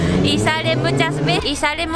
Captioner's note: bike makes noise